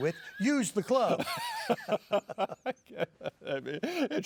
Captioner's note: both laughing